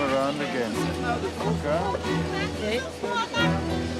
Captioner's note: background chatter; dramatic music